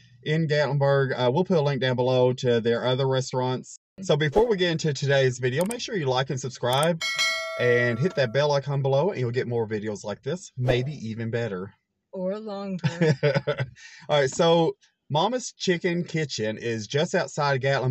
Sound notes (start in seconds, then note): 6.8 bell dings; 12.8 laughs